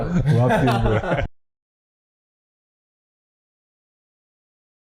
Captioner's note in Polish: śmiech